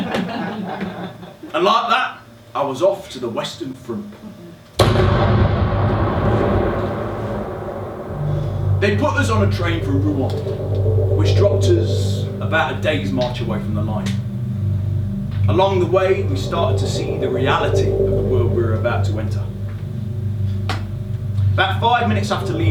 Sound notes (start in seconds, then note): 4.2 SFX - Loud Explosion followed by atmospheric drone